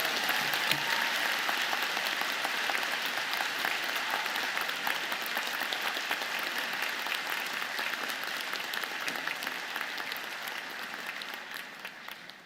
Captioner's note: applause